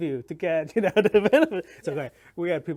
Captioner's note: laughs